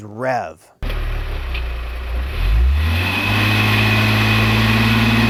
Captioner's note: car engine revving